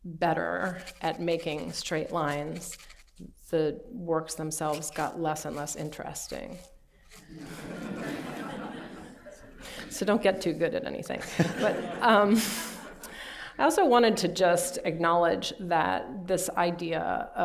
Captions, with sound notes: better at making straight lines, the works themselves got less and less interesting. [LAUGHTER] So don't get too good at anything. But I also wanted to just acknowledge that this idea